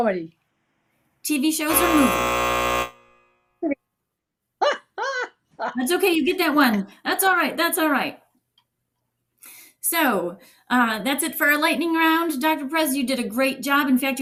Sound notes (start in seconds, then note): 1.6 buzzer sounds; 4.6 laughs